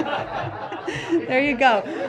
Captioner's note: laughter